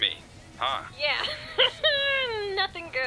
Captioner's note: laughing